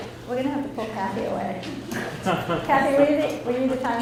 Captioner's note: laughs